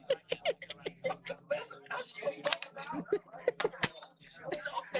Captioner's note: giggles